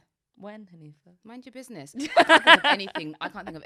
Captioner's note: laughs